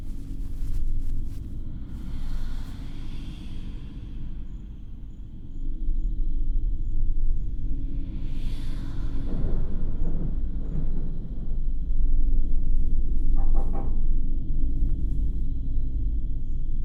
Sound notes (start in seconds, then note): 0.0 bedding rustles; 1.7 disembodied whispers; 6.9 thunder rumbles; 7.9 disembodied whispers; 13.4 knocking